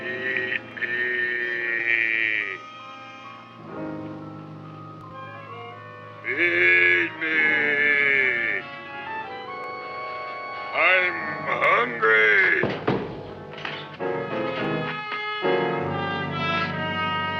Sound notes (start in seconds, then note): 0.0 placid music; 9.4 Gravis thumping; 14.4 dramatic music